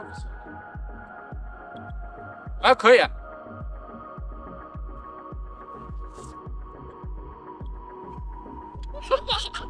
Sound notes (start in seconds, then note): 2.5 upbeat music; 4.0 speaking foreign language; 4.0 upbeat music; 8.9 laughing